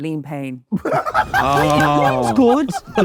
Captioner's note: JJ laughing